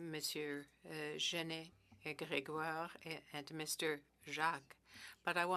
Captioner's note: speaking French